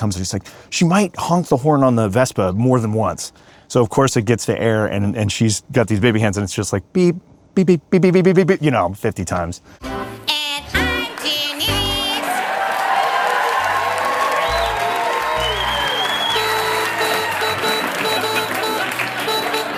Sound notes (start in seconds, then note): 13.0 audience cheers and applauds; 15.4 horn honks